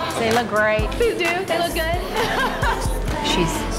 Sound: laughs

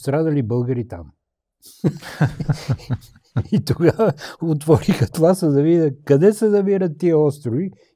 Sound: laughter

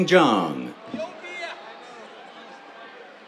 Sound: cheers

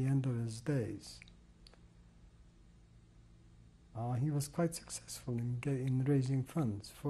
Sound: pauses for 3 seconds

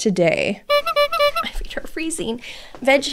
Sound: clown horn

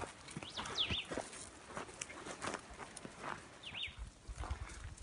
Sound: leaves rustling; birds chirping

